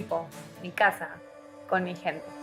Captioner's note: speaking spanish